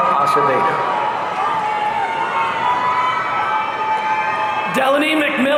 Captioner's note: audience cheering